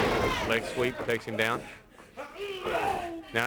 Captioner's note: crowd chatter